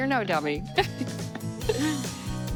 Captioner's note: laughing; bright music